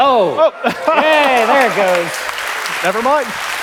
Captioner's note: applause